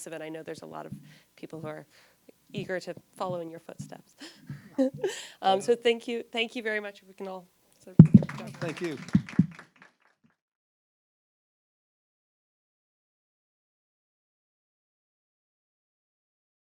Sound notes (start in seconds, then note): 4.2 laughs